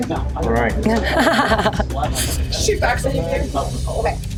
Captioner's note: laughs